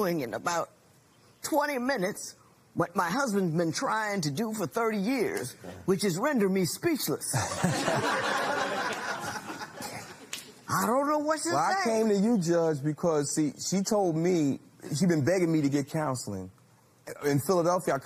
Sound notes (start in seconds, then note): 11.4 laughter